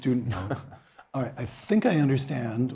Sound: laugh

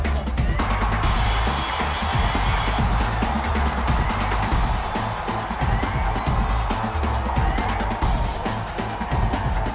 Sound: cheering

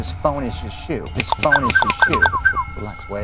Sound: snap!; cluck-snap-whistle-MANIA

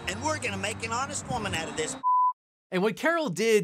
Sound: beeps

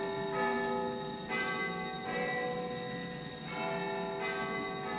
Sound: clock tower chimes

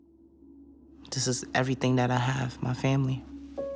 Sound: voiceover

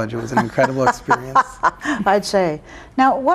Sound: laughing

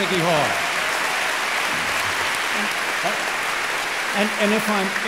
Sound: audience applauding

